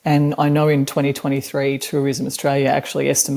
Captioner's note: none